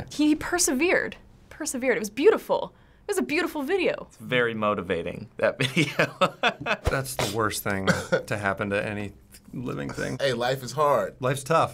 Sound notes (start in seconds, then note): 5.6 laughing